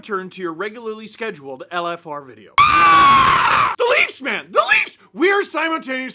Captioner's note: scream continues